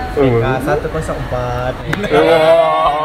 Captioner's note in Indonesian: Huaaaa